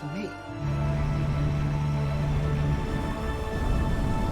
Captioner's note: ship horn bellowing